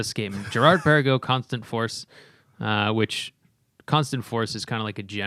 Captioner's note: laughter